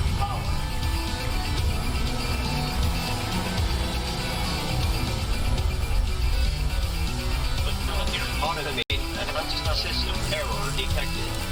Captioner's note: alarms & Bells; DMR whining noise getting intenser and intenser